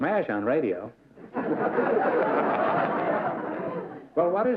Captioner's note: laughter